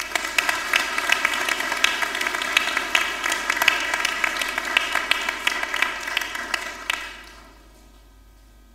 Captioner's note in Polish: oklaski